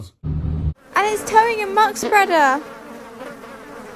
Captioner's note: flies buzzing